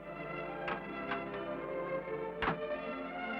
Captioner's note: door Closes